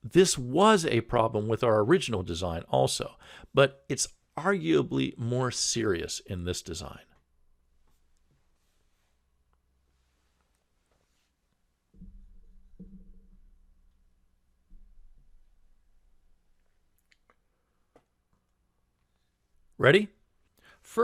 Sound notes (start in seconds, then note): 7.2 pause